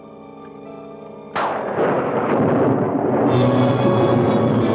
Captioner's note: thunder crashing; ominous music